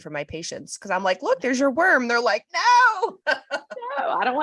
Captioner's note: laughs